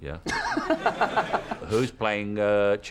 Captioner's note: laughter